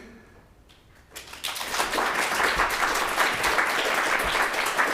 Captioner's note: audience applauding